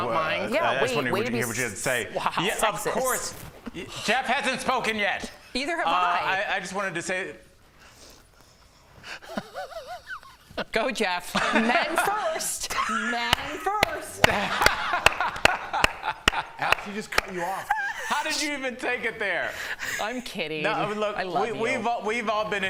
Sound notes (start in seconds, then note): 17.3 laughter